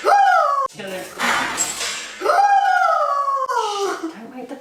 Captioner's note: screams; light clatters; screams